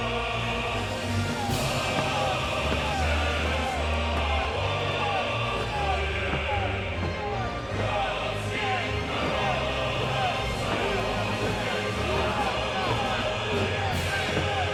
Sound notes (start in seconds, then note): 1.9 crowd murmuring; 1.9 footsteps plodding